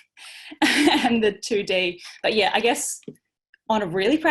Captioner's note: laughter